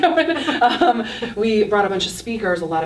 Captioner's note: laughing